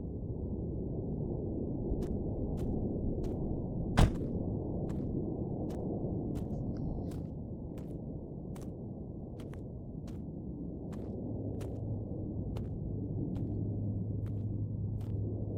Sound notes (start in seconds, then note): 1.5 car door slams; 1.5 footsteps crunching; 11.7 wind whistling continues